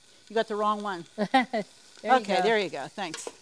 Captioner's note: laughs